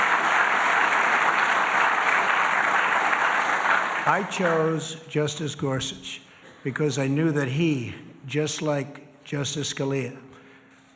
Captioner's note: applause